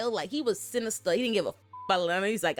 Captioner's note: beep